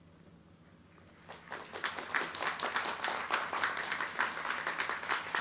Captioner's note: crowd clapping